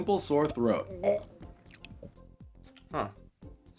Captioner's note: gags